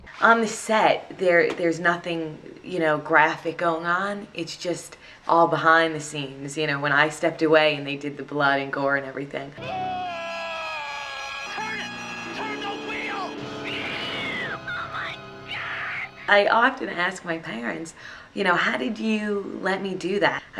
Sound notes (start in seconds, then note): 9.6 screaming